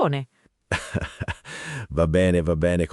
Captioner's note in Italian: Haha